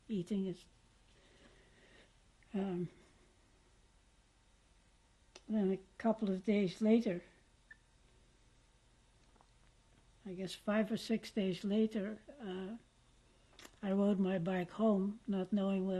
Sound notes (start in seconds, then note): 7.9 pauses for 3 seconds